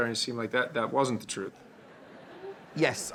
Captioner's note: audience laughing